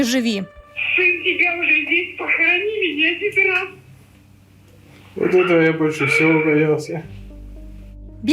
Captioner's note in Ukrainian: плаче